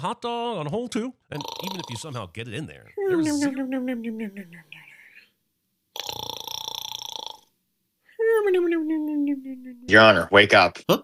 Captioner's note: snoring